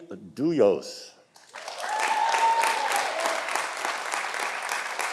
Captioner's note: audience applauding